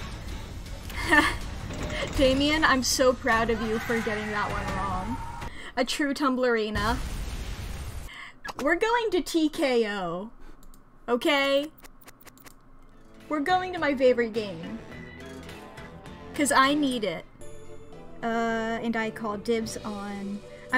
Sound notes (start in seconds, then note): 0.9 chuckles